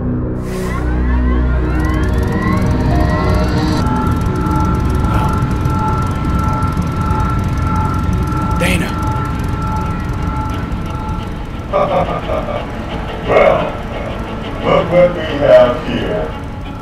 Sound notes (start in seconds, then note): 1.0 'hovercraft engine revs'